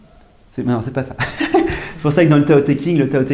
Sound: laughs

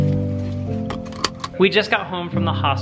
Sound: belt snaps

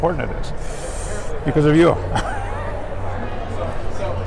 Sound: laughs

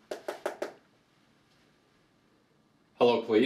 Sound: tapping

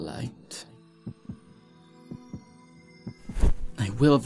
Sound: faint hum and heartbeat

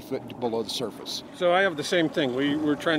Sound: winch motor running

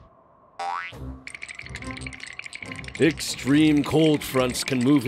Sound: both shivering

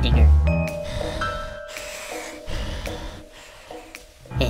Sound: evil breathing

